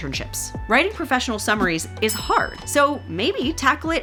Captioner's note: bell dings